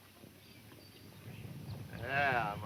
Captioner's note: stampede rumbling